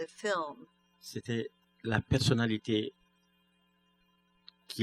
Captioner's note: speaking french